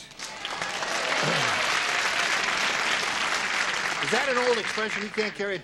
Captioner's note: applause